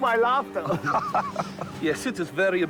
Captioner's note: laughing